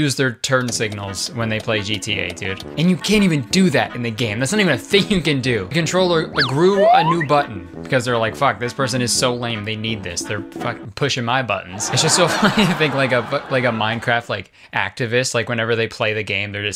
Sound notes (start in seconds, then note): 11.8 laughs